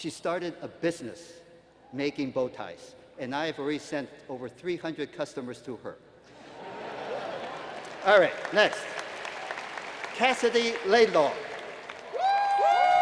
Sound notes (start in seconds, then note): 6.3 laughter; 7.2 applause